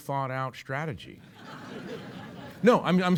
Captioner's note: audience laughing